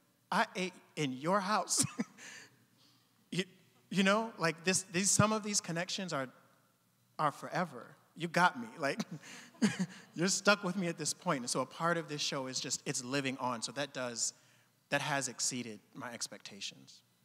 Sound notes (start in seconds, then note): 1.7 chuckling; 8.8 audience chuckling